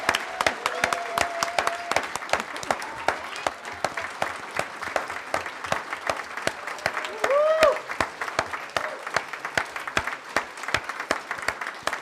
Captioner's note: applause